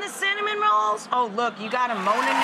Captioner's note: audience oohing